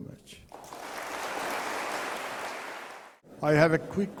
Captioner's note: applause